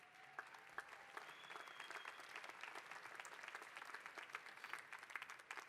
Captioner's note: applause